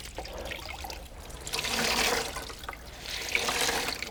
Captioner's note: splashing